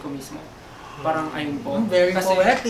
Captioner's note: gasps